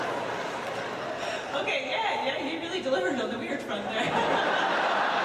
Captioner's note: laughs